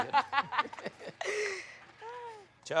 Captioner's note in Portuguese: gargalhadas